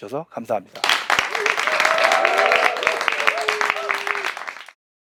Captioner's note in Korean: 박수 소리